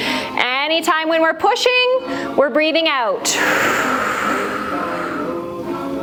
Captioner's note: breath